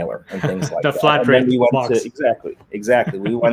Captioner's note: laughs